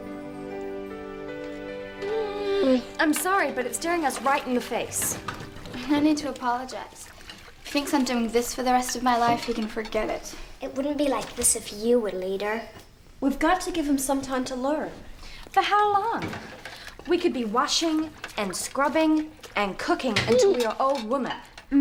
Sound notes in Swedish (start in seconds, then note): 2.0 hund gnäller